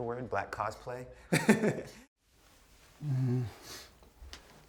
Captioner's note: laughs